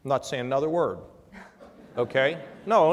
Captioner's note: laughter